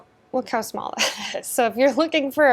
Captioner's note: chuckles